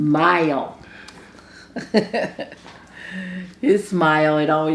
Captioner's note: both giggle